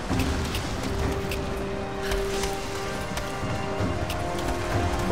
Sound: ice cracking

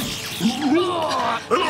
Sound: groaning

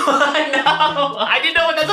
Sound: laughs

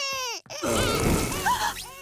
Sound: burp

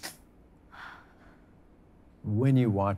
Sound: sniffles; sighs

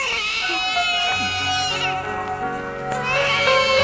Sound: baby wailing

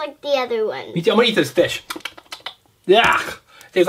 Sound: smacks lips

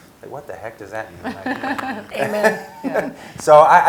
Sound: laugh

